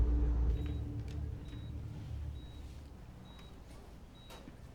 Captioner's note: monitor beeping